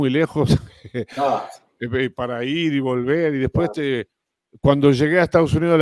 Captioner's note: Ríe